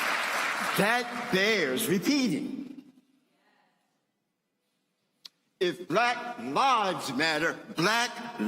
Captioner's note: applause